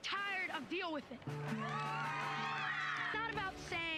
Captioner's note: applause